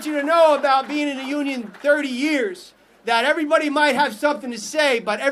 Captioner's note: applause